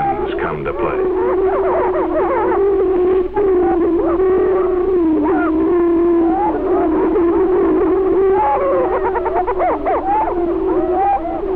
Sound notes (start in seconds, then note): 0.0 prairie chicken calling & booming